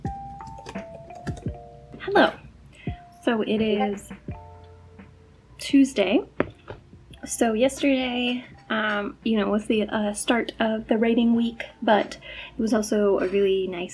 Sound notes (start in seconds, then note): 3.6 notification